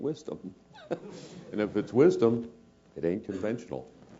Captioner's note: laugh